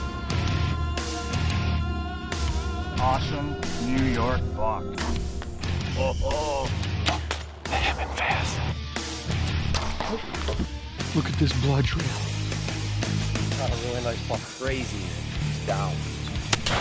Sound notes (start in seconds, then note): 0.2 rock music; 8.0 whispers; 9.9 rock music